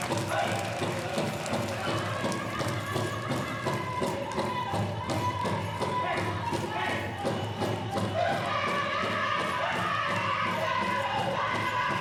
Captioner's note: applause